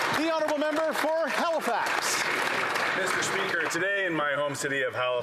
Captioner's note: some Applause